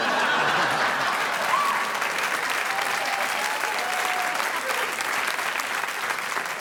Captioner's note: audience laughing; audience applauding